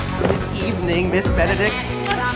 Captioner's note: kissing sounds